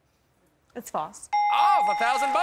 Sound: ding!

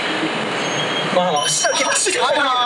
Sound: 𝔀𝓱𝓲𝓼𝓹𝓮𝓻

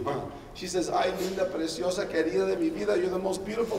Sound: speaking Spanish

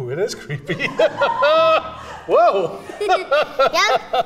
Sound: laughing; laughs

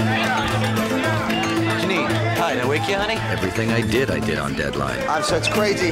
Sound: all Yelling

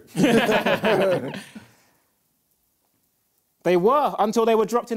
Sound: both laughing

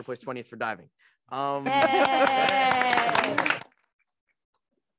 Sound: students applauding

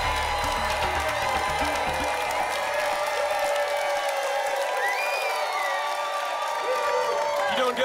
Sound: applause continues

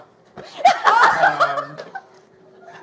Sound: laughs

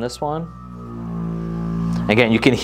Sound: foam roller buzzing

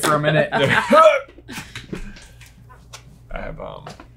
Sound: chuckles; grunts

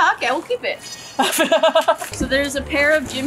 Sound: laughs

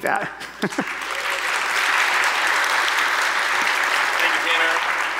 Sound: audience applauding

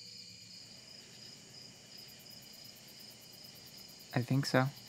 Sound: insects chirping

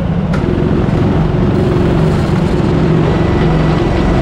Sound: lovely new kart noises

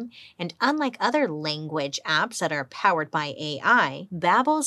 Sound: none

